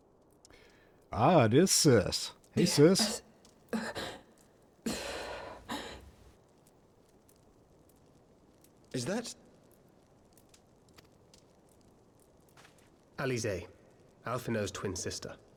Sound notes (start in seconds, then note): 4.8 sighs; 4.8 gasps